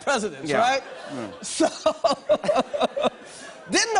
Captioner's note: laughs